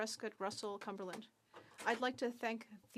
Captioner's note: speaking French